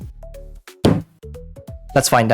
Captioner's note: slams desk